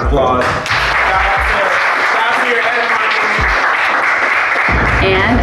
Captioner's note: students clapping